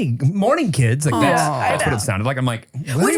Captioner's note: sigh